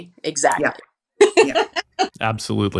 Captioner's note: laughs